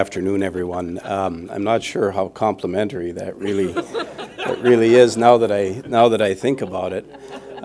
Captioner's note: laughter